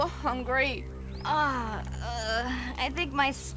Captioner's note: groans